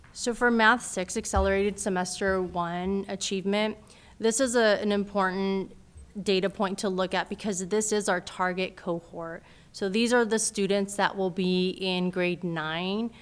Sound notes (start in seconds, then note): none